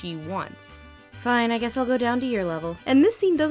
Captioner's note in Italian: imitando Belle; voce fuori campo